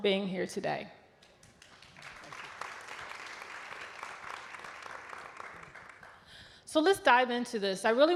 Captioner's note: applause